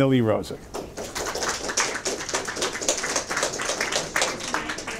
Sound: audience applause

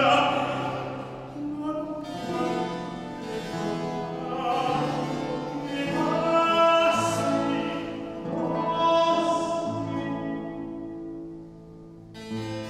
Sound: ECHO: Enough

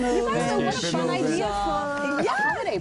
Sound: laughter

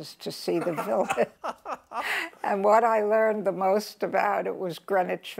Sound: laughs

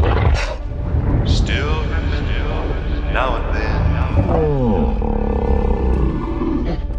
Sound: Kong growls; Kong groans

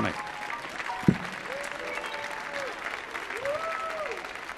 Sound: audience applauding

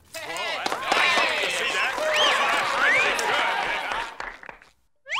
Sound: cheering

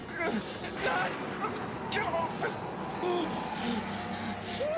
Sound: exclaiming

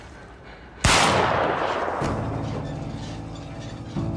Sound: gun firing

